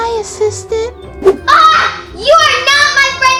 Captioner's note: screams